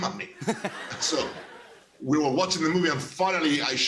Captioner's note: laughter